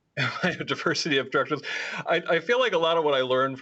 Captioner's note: laughter